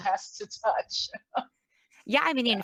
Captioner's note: laughs